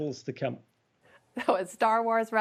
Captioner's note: laughter